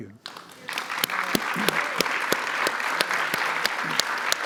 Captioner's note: audience applauds